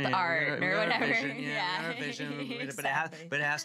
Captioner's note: laughing